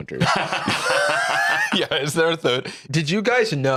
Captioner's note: laughs